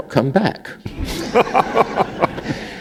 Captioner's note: laughter